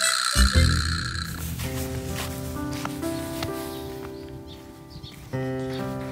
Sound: early morning with birds chirping

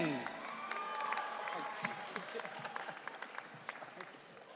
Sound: audience cheering

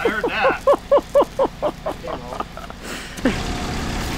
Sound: laughing

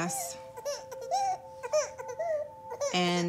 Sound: baby crying

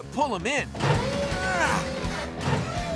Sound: straining

